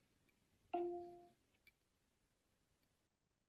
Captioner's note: device chimes